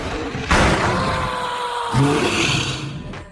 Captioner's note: Perez screaming